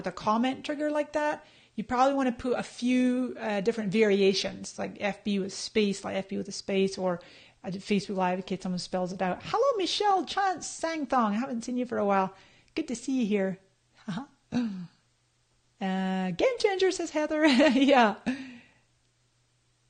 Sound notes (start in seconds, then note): 15.3 laughs; 18.9 laughing